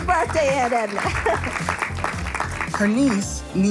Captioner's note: audience applauding